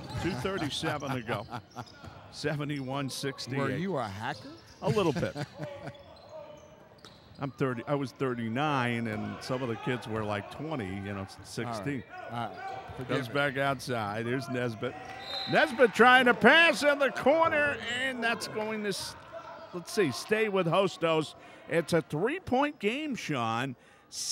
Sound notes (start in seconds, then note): 0.5 laughing; 4.9 laughs; 5.8 shoes squeaking; 6.2 yelling